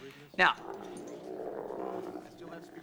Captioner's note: llama groaning